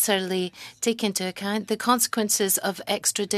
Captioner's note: speaking french